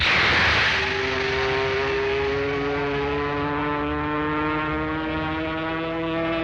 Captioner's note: airplane engines humming